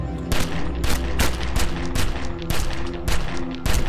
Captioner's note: gun firing